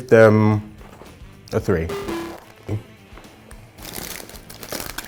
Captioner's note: error buzzer